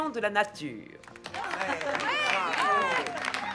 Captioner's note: clapping and cheering